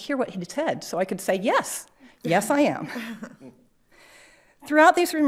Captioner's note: chuckles